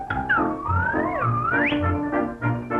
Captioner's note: slide-whistle noise